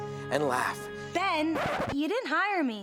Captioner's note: record scratching